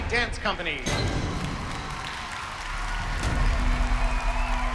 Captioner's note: cheering